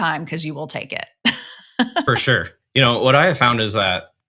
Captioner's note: chuckles